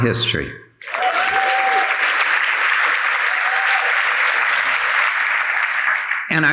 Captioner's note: audience applauding and cheering